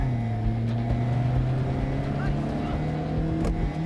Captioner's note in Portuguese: gritos indistintos